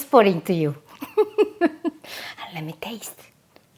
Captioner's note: laughs